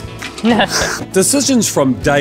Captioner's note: laughter